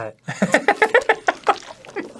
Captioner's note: laughing in disgust; eating gummily, wet